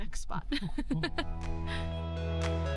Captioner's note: laughing; upbeat music